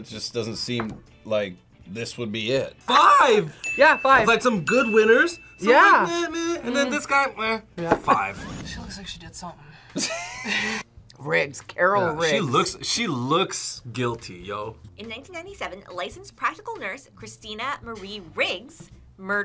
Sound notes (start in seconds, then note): 7.8 laughs; 9.9 both laugh